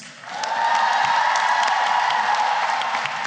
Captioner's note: cheering and applause